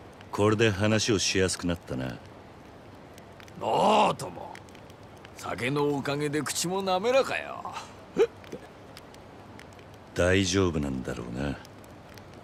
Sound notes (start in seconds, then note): 8.2 hic